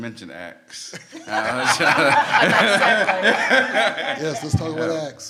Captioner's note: everyone laughs